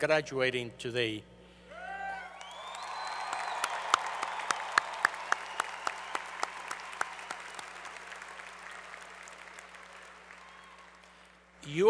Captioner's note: applause